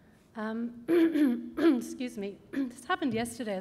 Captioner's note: clears throat